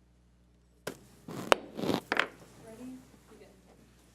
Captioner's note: gavel bangs